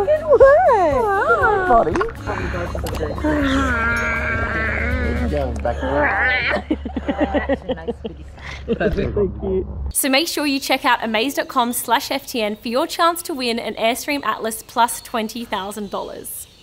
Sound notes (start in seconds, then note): 6.7 background laughing